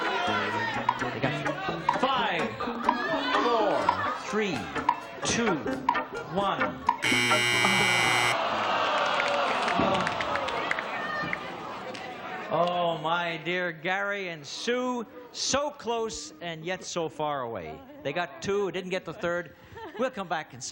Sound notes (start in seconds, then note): 7.0 buzzing; 9.0 audience groans